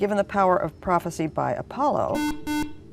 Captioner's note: buzzer